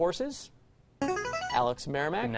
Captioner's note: buzzer